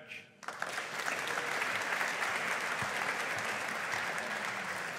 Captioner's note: audience applauding